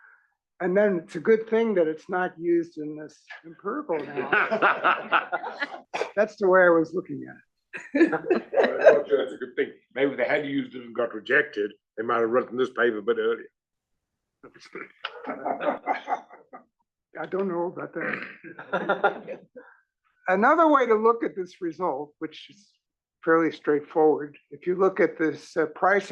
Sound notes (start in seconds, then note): 3.9 laugh; 7.8 laugh; 14.7 laugh